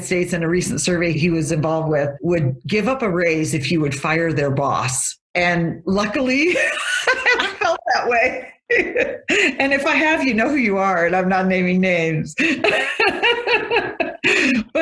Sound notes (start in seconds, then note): 6.6 laughing; 12.4 laughs